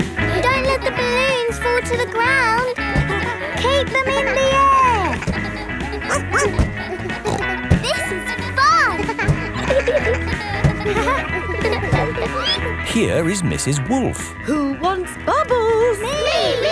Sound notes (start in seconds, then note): 5.9 snorts; 6.0 barks